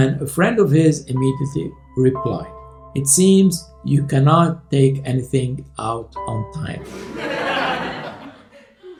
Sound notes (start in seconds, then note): 6.8 laughter